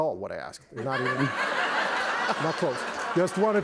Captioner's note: laughter